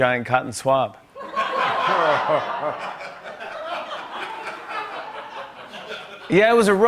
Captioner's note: laughter